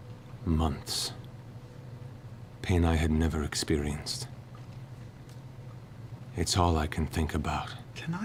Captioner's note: deepening to a growl